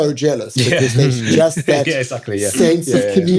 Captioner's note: laughs